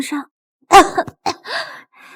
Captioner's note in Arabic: سعال